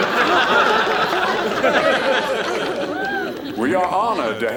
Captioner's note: laughter